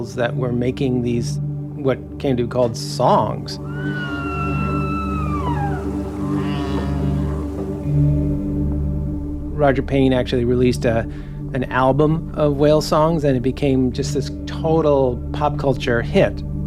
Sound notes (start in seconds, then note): 3.6 soft music; 3.6 whales calling